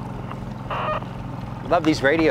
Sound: receiver beeping

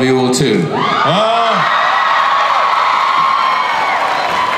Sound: audience cheers

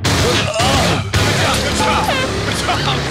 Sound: grunts; air horn blows

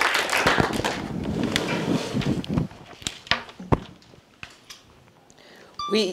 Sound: applause

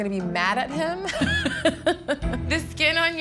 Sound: laughs

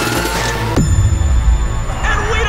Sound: boom

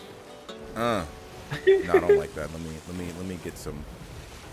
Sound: laugh

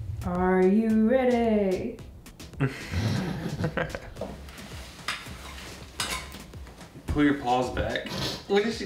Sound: laughing

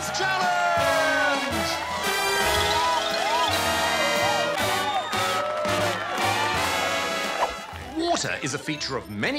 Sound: applause; jazzy music

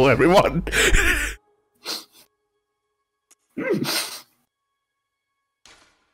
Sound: stifled laughter

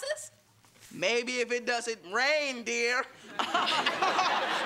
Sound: laughter

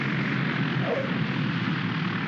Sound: wheels chirp; aircraft rumbles

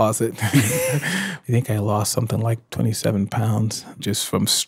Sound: laughs

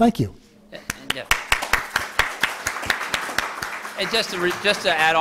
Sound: applause

